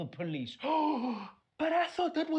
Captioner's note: gasp